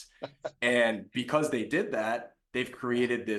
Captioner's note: laughs